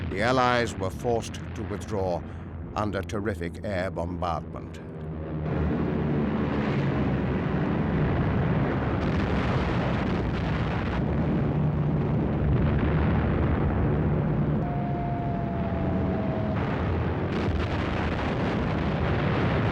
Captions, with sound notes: The Allies were forced to withdraw under terrific air bombardment. (planes buzzing) (guns firing) (bombs exploding)